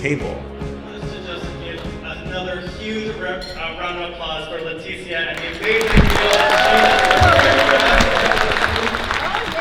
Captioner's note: applause